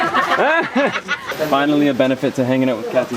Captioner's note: laughter